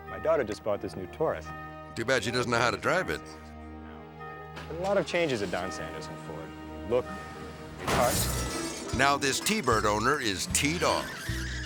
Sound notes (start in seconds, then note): 7.8 metal crunches and crashes